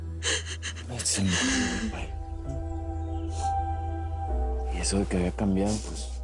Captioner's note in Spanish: Sollozos